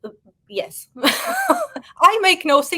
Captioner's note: woman laughing